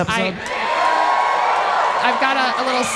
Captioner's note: audience cheering